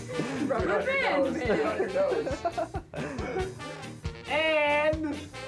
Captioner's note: people chattering